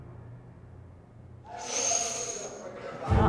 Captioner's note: inhales sharply